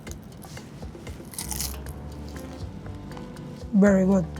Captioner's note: pizza crunches